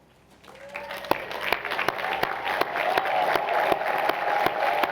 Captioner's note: cheering